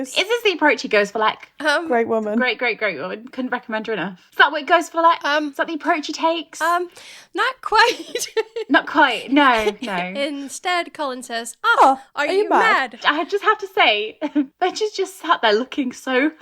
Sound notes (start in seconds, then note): 7.4 laughing; 11.8 echoing